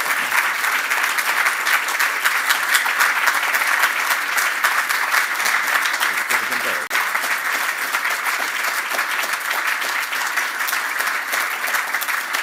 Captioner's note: applause